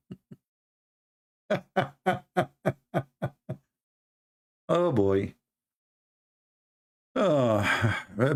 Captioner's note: Ketawa